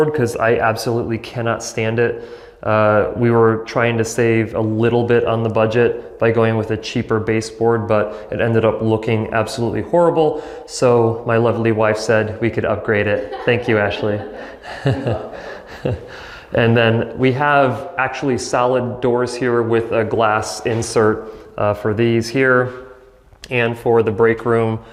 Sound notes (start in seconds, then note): 13.0 laughs